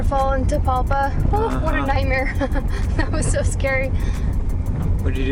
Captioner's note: laughter